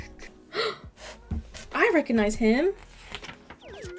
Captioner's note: gasp